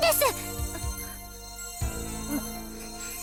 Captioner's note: alert